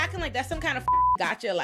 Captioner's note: beep